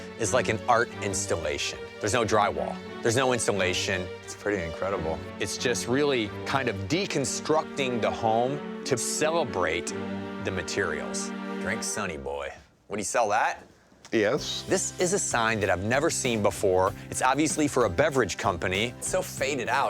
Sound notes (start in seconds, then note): none